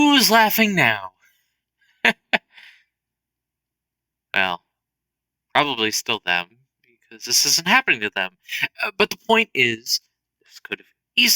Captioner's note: laughs